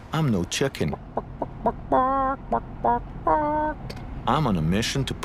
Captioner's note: making chicken noises